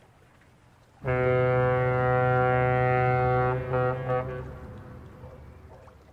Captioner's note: big Ol' Boat Honk